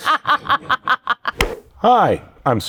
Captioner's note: Penelope laughs